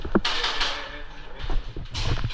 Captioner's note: shots miss